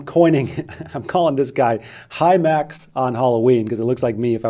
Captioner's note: laughs